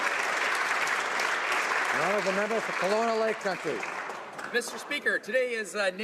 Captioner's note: some Applause